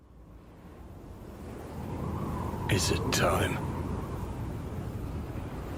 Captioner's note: wind blows